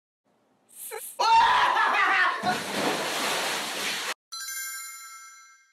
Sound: laughing hard and going to bathtub

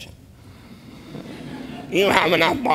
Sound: audience laughter

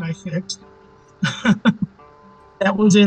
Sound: laughing

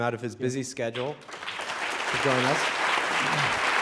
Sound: audience clapping

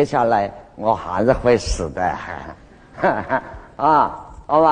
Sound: haha

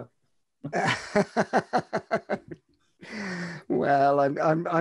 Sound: laughs

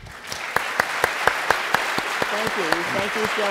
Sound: applause

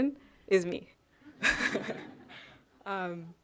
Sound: chuckling

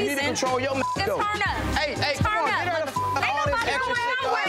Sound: beep

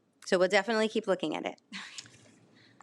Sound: laughs

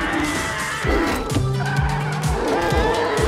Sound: engine revs, tires squeal; screaming

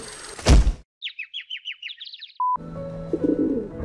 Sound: thud; birds chirping

